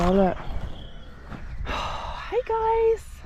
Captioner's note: sigh